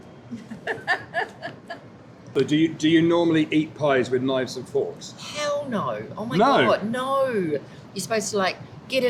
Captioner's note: laughter